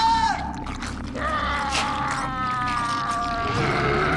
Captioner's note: Wolf groans